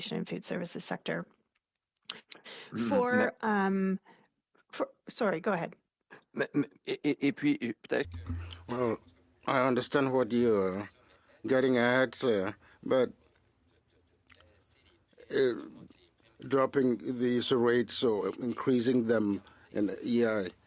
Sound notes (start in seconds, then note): 10.4 speaking French